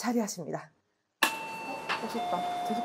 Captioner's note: ding-dong